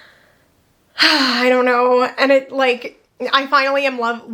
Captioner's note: sighs